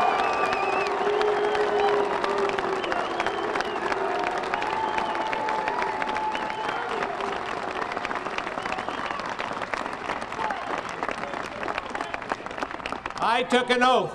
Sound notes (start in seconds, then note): 0.0 applause; 3.3 cheers and boos